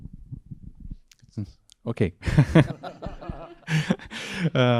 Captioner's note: laughing